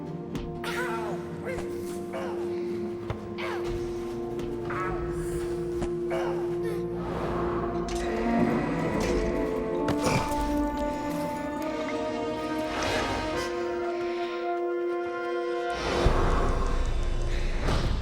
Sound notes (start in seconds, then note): 0.3 fists thud; 10.0 Nethiah panting; 11.4 tense music